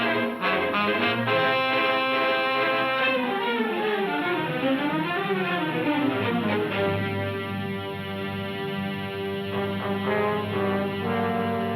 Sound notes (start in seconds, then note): none